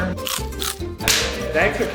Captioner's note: food crunching; hands smacking